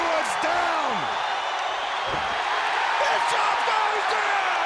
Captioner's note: audience cheering